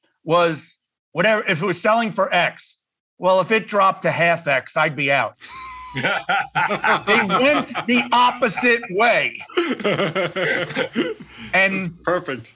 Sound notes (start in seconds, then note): 5.4 laugh